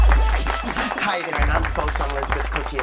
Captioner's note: audience clapping